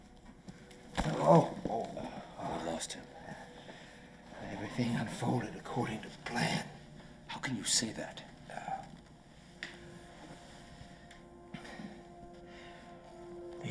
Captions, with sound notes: (McCarran groaning) - We lost him. - Everything unfolded according to plan. - How can you say that? (soft music)